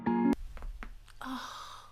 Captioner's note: calm guitar music; neck muscles cracking